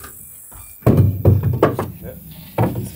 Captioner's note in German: Rumpeln